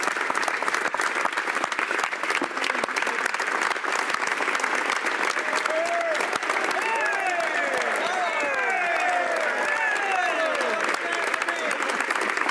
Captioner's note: applause